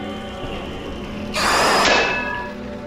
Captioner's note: growling